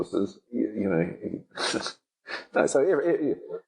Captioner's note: laughing